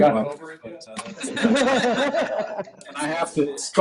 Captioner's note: laughter